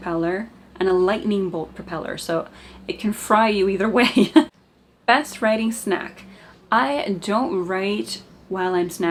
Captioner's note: evil laugh